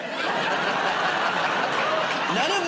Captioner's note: laughter